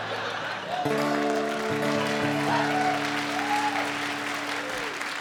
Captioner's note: cheering and applause